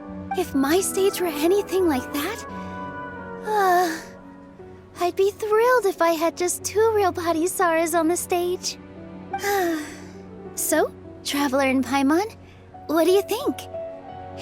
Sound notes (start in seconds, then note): 3.4 sigh